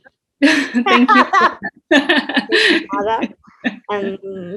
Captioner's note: both laugh